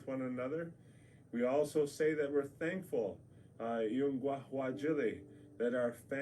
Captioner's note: speaks native language